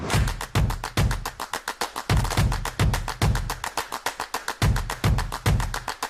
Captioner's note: dramatic whoosh; upbeat rhythmic beats